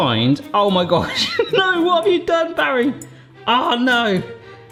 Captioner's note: laughs